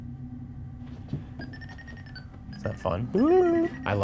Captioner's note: tone beeping